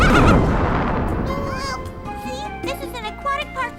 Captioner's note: laughing; explosion